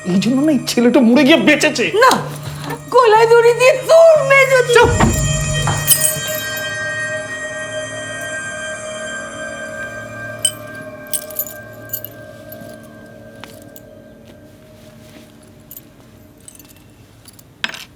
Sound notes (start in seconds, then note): 4.8 key falls